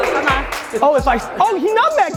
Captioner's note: claps